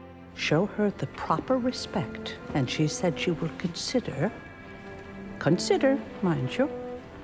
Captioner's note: voiceover